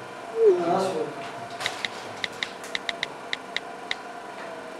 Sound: typing noise

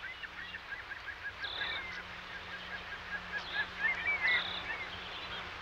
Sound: nature sounds

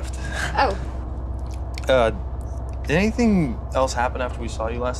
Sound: Jason chuckles

